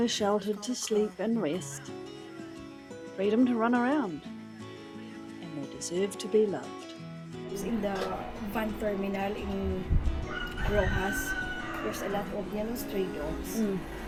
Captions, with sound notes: somewhere sheltered to sleep and rest freedom to run around and they deserve to be loved! In the van terminal in Rohas [rooster crows] there is a lot of young stray dogs